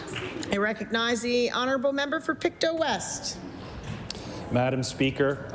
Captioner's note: applause